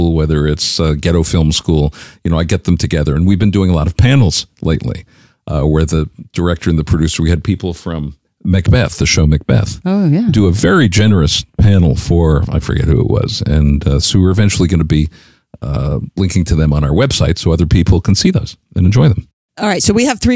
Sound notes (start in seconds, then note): none